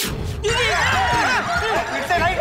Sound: screaming

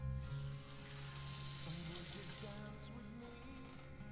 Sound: water splashing

